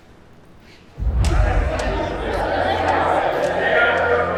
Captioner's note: group chattering